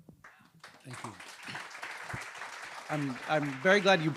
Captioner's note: audience applauding